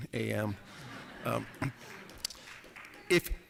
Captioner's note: laughter